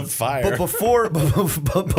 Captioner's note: laughter